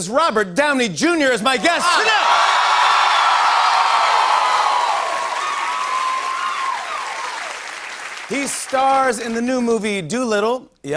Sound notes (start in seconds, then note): 1.6 boisterous cheering and applause